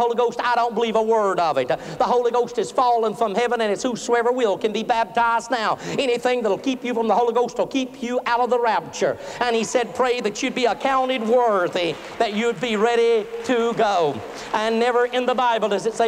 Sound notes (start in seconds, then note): 13.5 applause